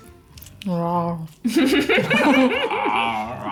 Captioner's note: eating noises